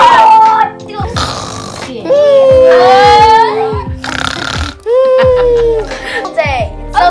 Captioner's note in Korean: 쿨쿨